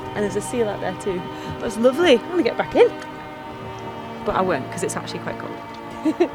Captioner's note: chuckles